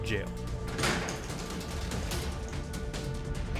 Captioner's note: door clinks